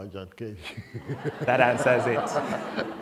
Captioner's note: laughter